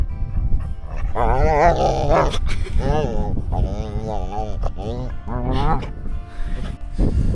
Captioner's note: Leo makes cuddly noises